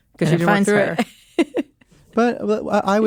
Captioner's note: laughs